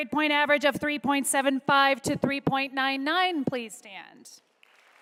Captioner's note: applause